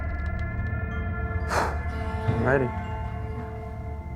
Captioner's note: suspenseful music playing; exhales